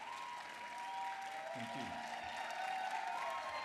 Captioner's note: applause